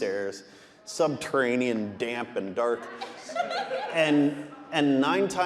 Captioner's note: audience laughing